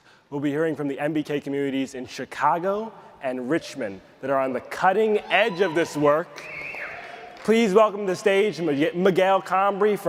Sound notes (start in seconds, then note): 4.9 audience cheers